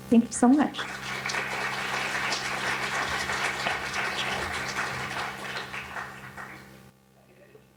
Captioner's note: applause